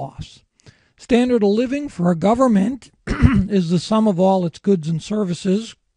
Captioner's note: cough